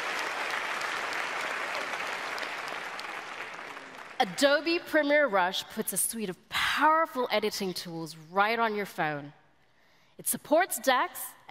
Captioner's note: applause